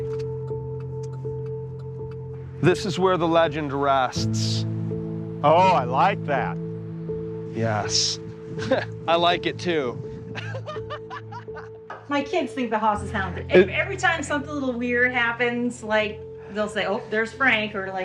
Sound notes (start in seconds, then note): 10.2 laughs